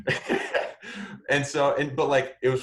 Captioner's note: laughs